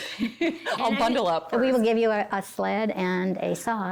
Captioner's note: laughing